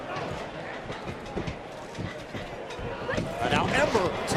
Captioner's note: crowd chatter